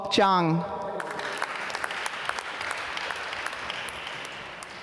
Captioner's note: applause